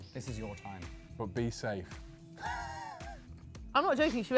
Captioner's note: laughs